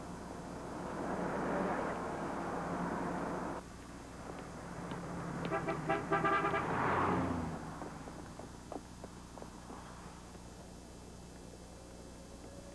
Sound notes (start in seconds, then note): 5.5 honking